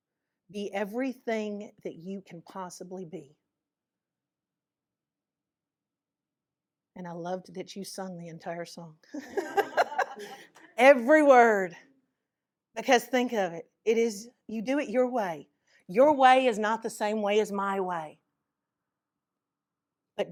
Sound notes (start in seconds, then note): 9.1 laughter